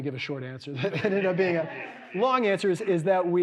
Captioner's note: audience laughing